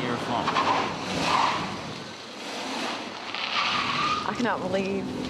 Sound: tires screeching

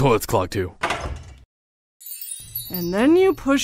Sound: door clicks

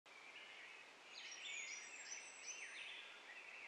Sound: birds chirping

